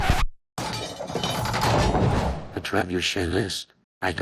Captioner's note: trebuchet clanks